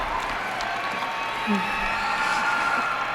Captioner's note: applause